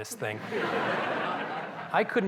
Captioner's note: laughter